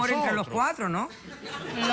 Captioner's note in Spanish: risas